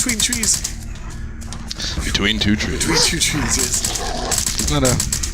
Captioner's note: deep man voice